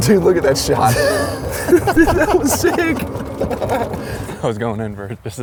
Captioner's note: laughs